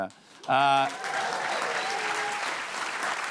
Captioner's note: cheers and applause